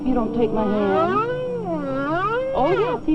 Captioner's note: whining continues